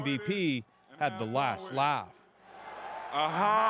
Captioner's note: applause